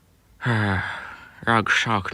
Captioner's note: sigh